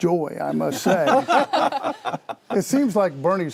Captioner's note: laughter